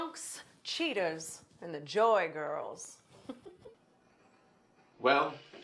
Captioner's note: laughs